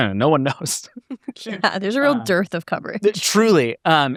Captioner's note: chuckles